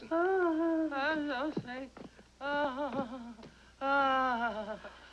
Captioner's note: moaning